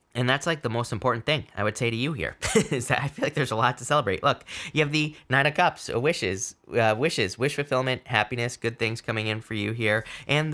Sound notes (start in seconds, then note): 2.4 laughing